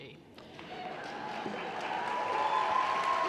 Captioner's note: applause